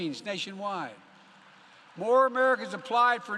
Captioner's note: applause